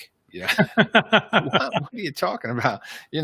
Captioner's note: laughs